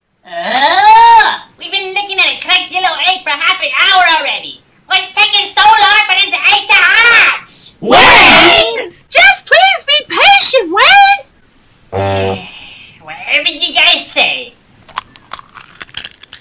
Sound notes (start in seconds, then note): 11.9 sighs; 14.7 egg crackling